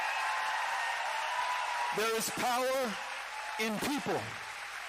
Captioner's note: cheering